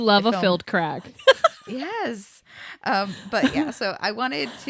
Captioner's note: laughs